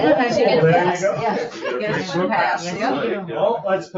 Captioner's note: people chatter